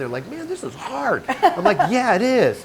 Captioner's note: laughing